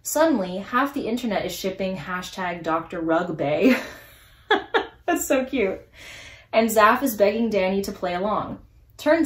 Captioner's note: laughs